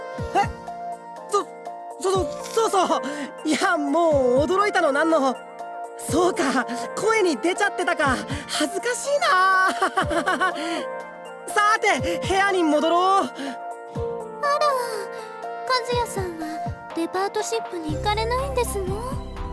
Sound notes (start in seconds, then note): 9.6 awkward laugh